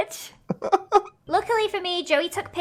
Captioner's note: laughs